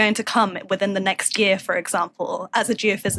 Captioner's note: none